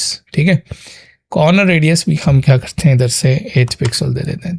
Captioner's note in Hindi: नाक से की जाने वाली आवाज़